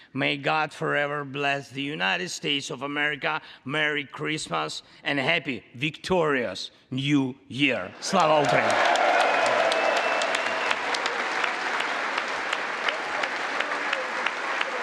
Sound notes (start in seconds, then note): 8.0 congress applauding